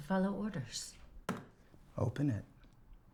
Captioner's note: pen thuds